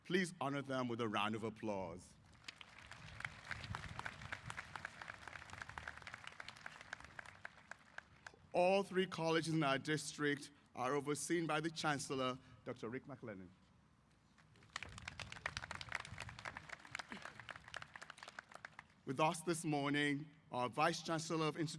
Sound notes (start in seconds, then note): 2.2 applause; 14.4 applause